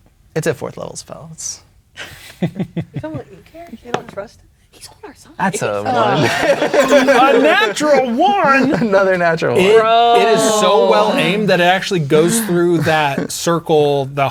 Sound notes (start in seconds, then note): 2.4 chuckling; 2.9 speaking quietly; 6.6 all laughing